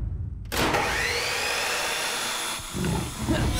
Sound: sawing; grunting

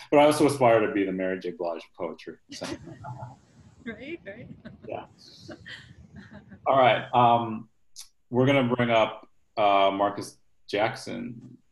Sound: laughs

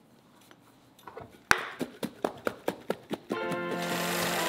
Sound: shaking noises; solemn music

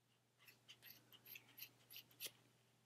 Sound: snipping sounds

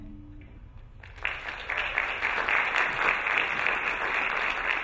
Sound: applauding

